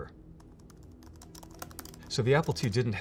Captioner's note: keyboard clacking